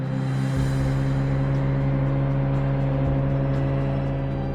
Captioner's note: seaplane roaring